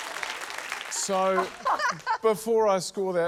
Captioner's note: laugh